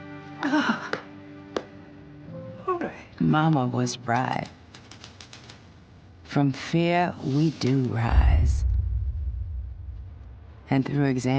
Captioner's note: sighs